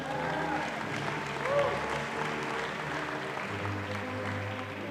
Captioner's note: audience applauding